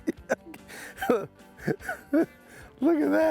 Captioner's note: chuckling